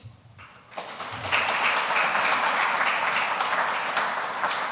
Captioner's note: audience applauds